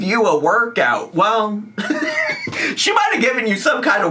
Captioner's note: laughs